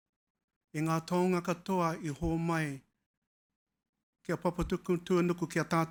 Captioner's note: speaking foreign language